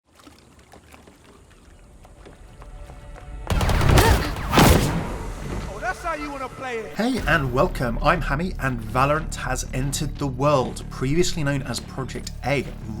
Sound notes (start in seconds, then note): 0.0 water gurgling; 3.4 gunshots